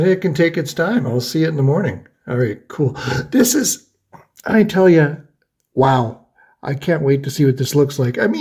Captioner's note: gasps